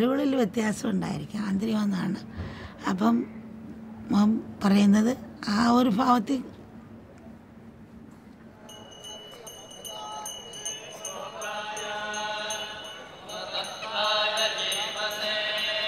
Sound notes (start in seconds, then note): 8.5 bell sound and prayers